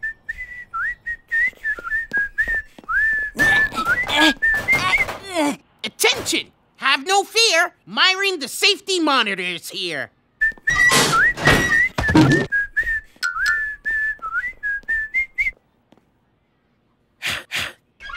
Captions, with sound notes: (WHISTLING) (GRUNTS OF EFFORT) ATTENTION! HAVE NO FEAR, MYRON THE SAFETY MONITOR IS HERE! (WHISTLING) (THUD) (WHISTLING)